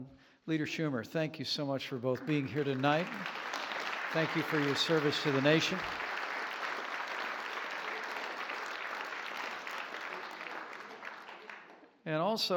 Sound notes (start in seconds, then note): 3.5 applause